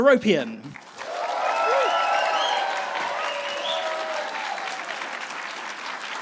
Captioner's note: audience applauding and cheering